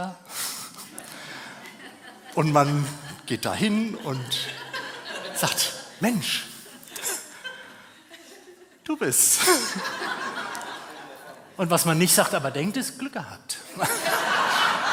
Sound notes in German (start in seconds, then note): 3.8 gelächter; 13.6 gelächter